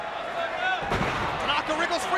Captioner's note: feet pound